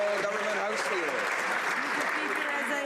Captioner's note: some Applause